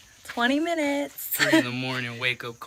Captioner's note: chuckles